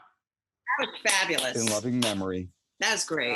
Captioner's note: applauds